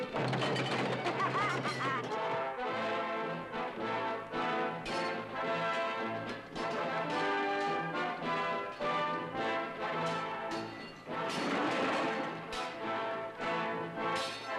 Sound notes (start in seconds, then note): 0.8 laughing; 4.9 swords clanging; 11.7 grandiose music